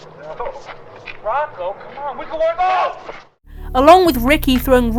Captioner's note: angry noises